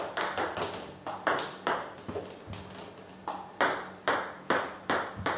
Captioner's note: ball ping pong hitting continues